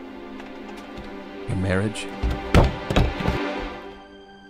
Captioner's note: door kick